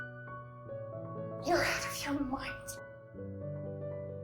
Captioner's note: voiceover